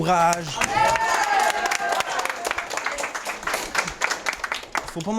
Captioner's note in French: acclamations et applaudissements